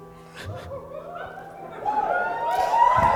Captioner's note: quiet sobs